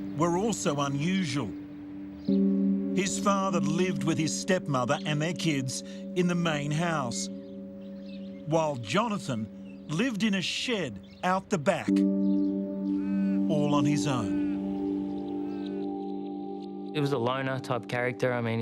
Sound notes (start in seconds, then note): 12.0 birds chirping; 12.8 gentle music